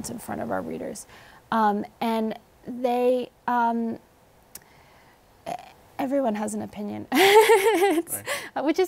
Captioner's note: laughs